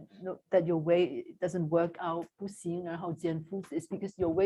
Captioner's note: non-english